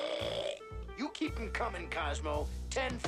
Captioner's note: burps